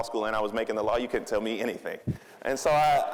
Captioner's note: audience laughing